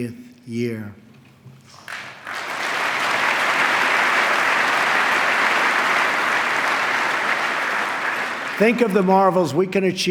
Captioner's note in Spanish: aplauso